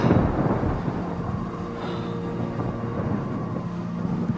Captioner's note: Dayne breathing heavily; wind whistling